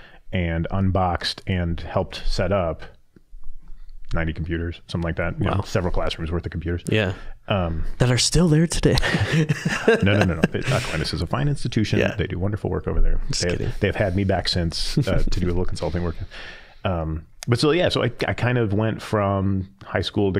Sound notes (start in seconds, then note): 9.0 both laughing